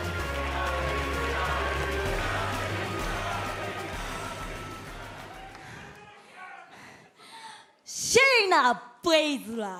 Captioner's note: fans chanting